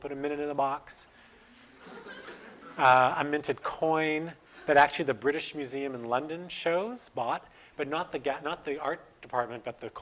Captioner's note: audience: Laughter